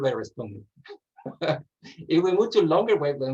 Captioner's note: laughs